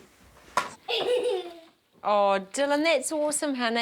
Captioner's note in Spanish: riendo